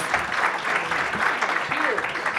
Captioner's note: audience applauding